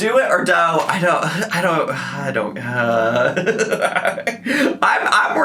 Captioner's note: laughs